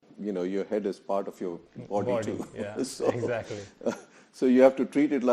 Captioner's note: laughing